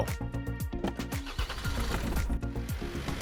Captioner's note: car engine